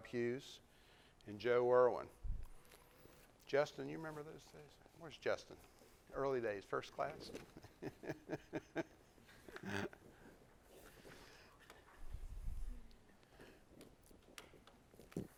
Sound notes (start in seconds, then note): 7.3 laughs